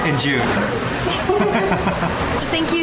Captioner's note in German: Gelächter